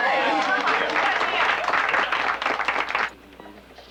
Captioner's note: applauding